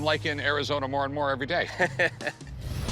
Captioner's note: chuckles